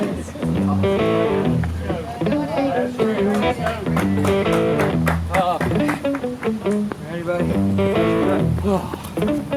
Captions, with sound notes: (bluesy music) (applause) Ready, buddy?